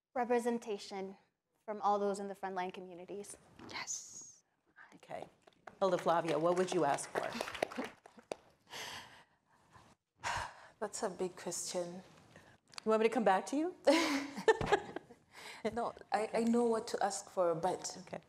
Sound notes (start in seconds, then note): 5.8 audience applauding